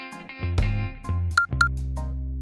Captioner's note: beep beep again